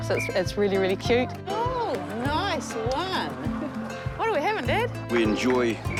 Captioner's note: chuckles